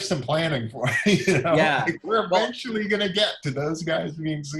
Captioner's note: laughs